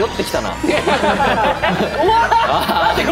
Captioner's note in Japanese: 笑い